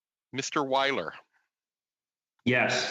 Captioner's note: speaking in French